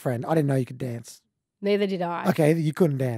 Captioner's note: laughs